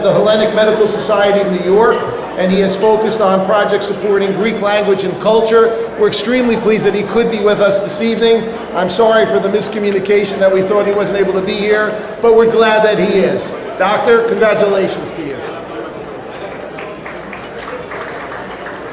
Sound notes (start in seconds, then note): 16.8 audience applauding